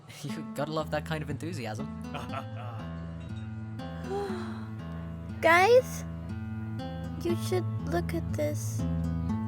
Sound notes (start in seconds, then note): 2.2 Nagar chuckles; 4.1 Torlin inhales sharply